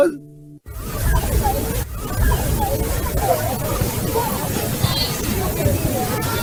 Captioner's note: people chattering indistinctly